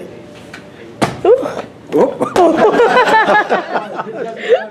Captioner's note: laughter